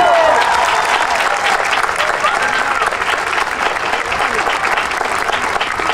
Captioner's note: audience cheering and applauding